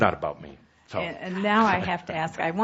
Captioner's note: chuckling